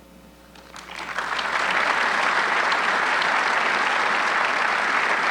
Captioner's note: audience clapping